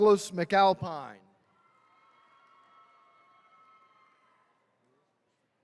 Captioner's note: attendees cheering